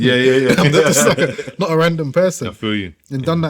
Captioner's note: laughing